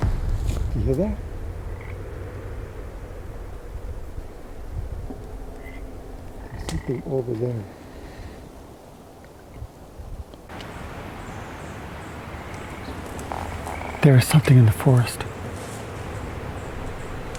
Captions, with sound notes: You hear that? (Frog croaks) I think they're over there. (Frog croaking) There is something in the forest.